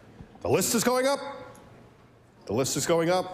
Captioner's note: none